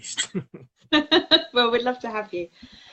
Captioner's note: both laugh